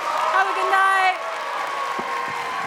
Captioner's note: audience cheering and clapping